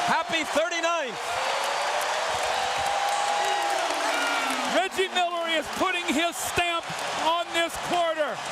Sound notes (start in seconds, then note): 2.8 crowd cheering